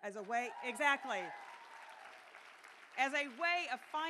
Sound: cheering

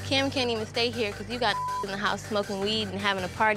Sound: beep

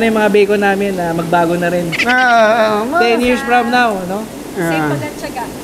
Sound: laugh

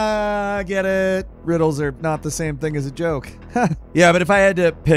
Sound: laughs

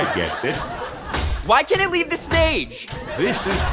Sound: robotic walking

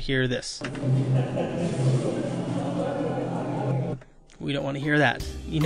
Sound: muffled chatter

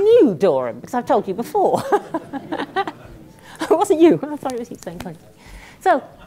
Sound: laugh

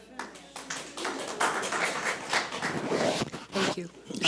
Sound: audience applauds

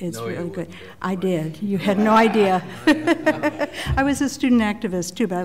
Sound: laughter

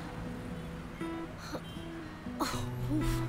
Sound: traffic sound

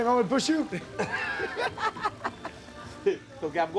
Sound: laughing

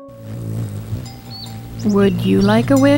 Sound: wings buzzing; cow bell ringing

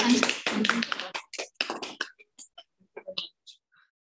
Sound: audience applauding

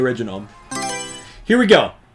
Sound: Mario Selection Sound

